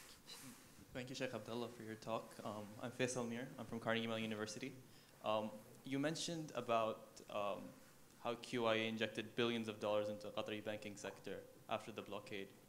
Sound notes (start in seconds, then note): 3.1 speaking foreign language